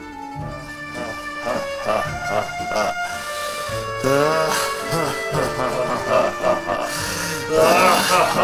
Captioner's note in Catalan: hahahahahaha